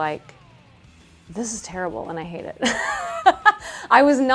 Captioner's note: laughs